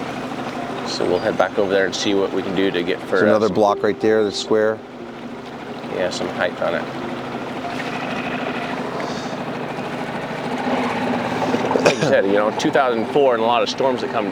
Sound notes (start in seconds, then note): 9.1 coughing; 9.1 engine rumbling